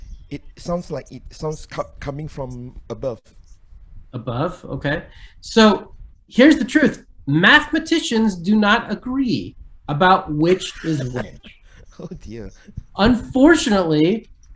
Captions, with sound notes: it sounds like it's coming from above. - Above? Okay. So, here's the truth. Mathematicians do not agree about which is which. - (giggles) Oh dear. - Unfortunately,